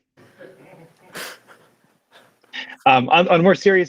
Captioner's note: laughter